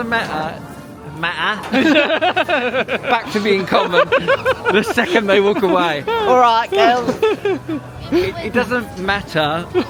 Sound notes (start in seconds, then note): 3.8 laughing